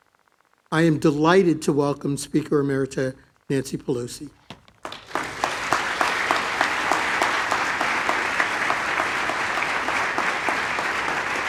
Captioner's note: applause